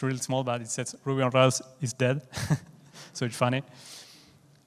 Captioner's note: chuckles